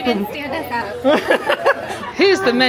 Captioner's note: laughs